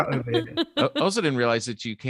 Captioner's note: laughs quickly